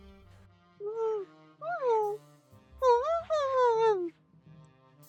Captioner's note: agitated muffled dialog